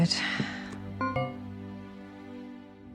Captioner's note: Oli-o-meter chiming; gentle music